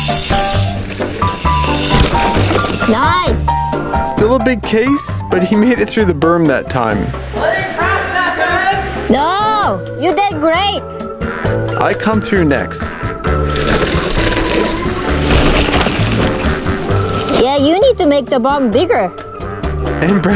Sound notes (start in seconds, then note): 0.1 upbeat piano music; 15.4 bike tires on the trail